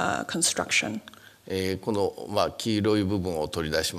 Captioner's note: speaking japanese